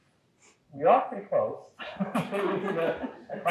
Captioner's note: laughs